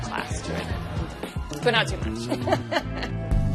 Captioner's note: laughs